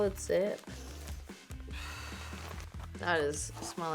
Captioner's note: inhales